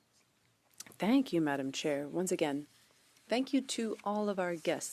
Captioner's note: speaking French